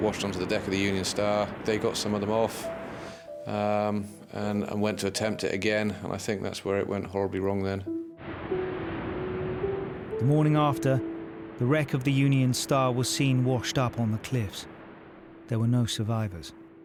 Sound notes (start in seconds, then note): 8.9 waves crashing